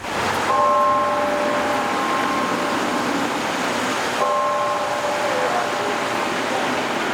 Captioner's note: bell tolls